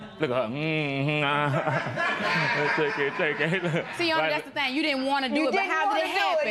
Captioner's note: laughter